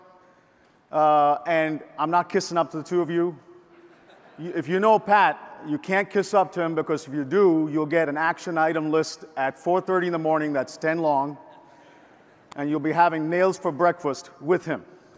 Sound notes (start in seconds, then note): 3.8 audience laughs